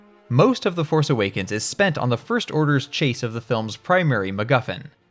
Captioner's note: none